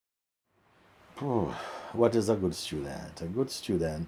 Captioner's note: exhales